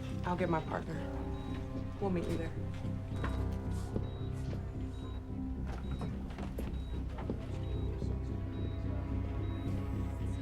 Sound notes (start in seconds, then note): 4.0 gentle tense music; 4.0 monitor beeping